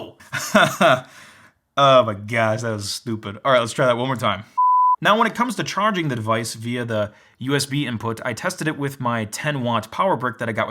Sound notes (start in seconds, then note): 0.2 laughs; 4.6 beep